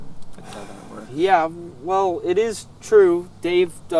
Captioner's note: sighs